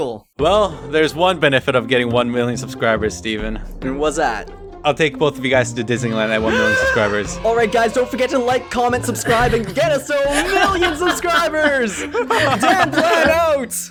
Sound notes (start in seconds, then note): 6.3 gasps